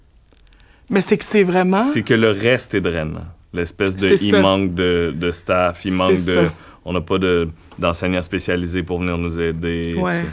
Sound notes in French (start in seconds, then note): none